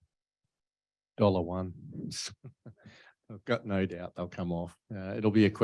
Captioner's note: chuckles